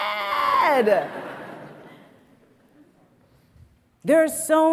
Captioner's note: audience laughs